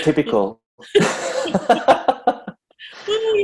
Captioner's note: laughs